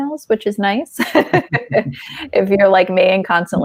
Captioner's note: laughing